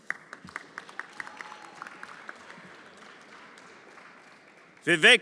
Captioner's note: everyone applauding